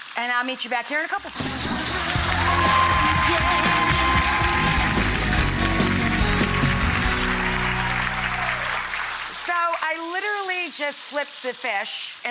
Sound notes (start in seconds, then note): 1.5 audience cheering